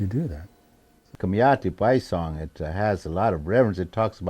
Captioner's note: speaking in foreign language